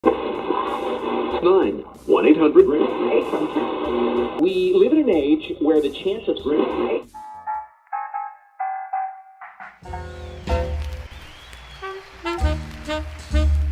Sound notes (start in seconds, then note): 0.0 radio dial scanning, static; 7.3 big band swing